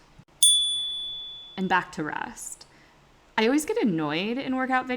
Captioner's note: chime